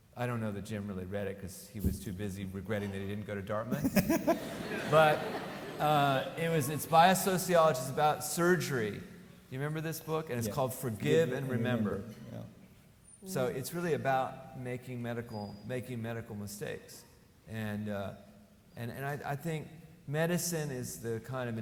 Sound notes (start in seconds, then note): 3.7 laughs; 3.7 audience laughing